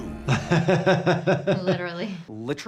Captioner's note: doctor laughs